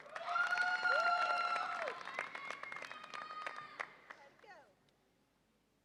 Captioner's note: audience applauds and cheers